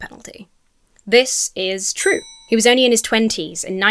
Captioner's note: bell dings